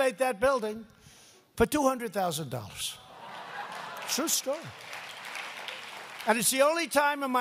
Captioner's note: applause